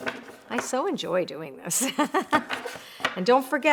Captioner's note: laughs